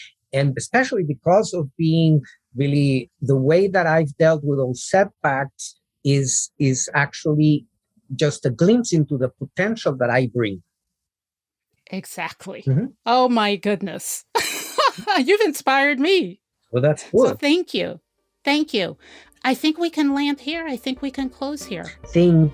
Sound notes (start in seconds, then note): 14.4 laughs